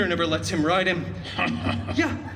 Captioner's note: chuckles